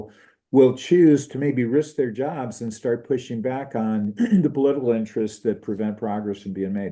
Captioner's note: cough